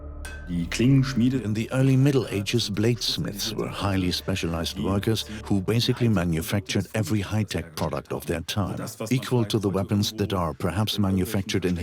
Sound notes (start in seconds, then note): 0.3 in German; 1.6 dubbed in English